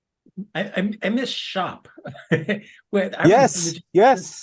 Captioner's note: laugh